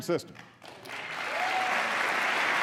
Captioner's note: applause